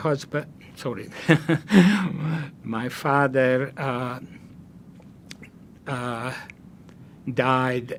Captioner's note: laughing